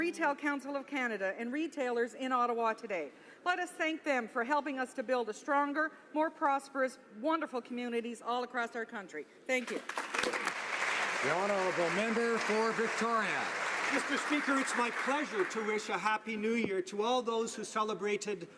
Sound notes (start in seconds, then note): 15.0 applause